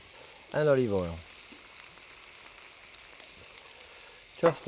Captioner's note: pan sizzling